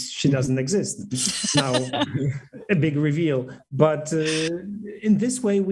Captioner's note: laughter